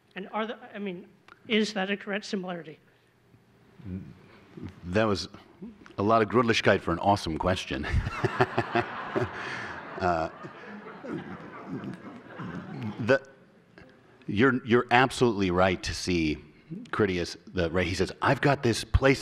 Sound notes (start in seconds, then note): 7.8 laughter